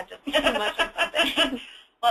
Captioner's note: laughing